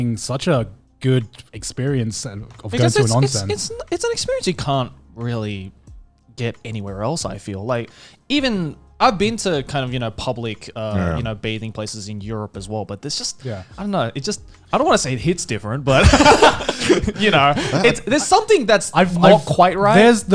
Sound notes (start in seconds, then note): 15.9 laughing